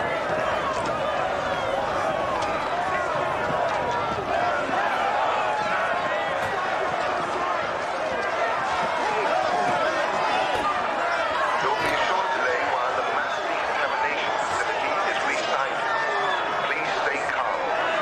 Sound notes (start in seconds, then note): 12.0 man over speakers